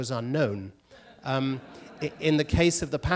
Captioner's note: audience laughter